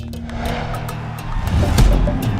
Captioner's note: thud